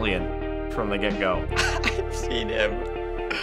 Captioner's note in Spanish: riendo